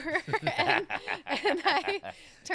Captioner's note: laughing